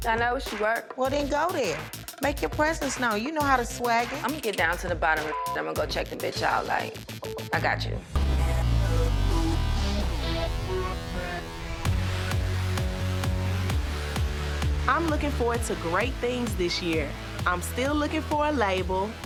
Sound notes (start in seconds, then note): 5.2 beep; 9.1 upbeat music